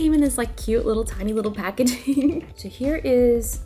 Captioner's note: giggles